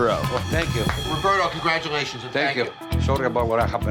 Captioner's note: hands clapping